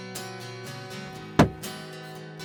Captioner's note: gun shot